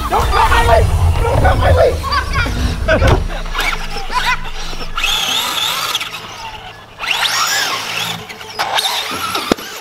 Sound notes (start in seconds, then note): 1.9 laughs; 3.8 car whirs